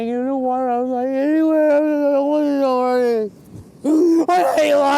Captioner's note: crying